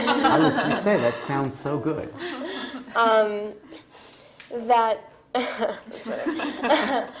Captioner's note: laugh; laugh